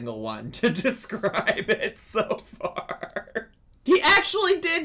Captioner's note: laughs